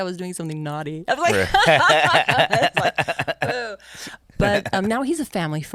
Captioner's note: both laugh